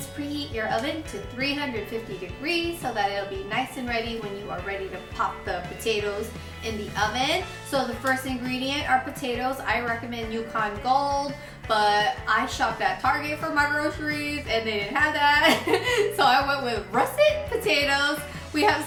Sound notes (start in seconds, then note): 15.4 laughs